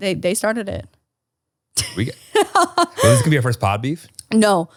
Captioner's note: laughing